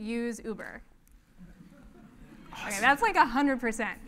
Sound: laugh

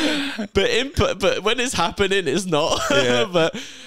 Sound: laughs

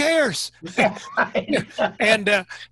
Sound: laughing

